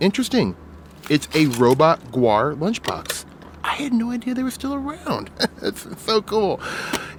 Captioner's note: laughs